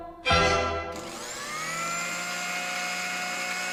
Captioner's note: song ends, blender whirring